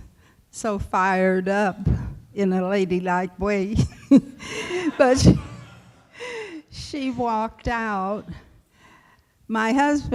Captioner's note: laughs